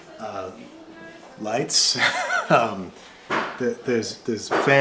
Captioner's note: laughs